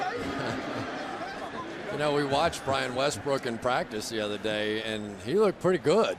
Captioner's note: laughs